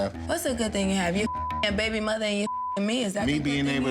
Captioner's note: beep